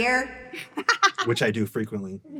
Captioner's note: laughs